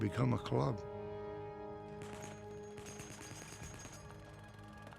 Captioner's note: gunfire